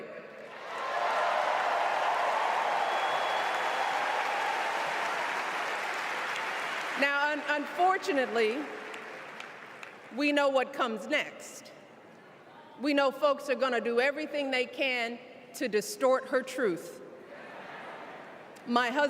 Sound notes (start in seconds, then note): 4.1 cheers and applause